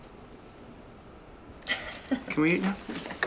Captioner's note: laughs